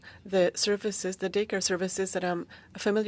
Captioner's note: speaking in French